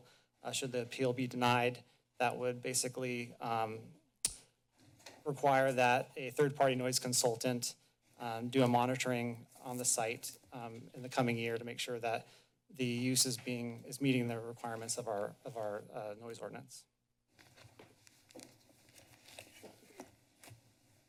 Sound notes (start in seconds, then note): 4.2 clicks tongue; 17.4 paper rustling